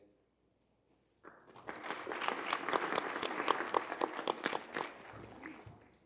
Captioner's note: applause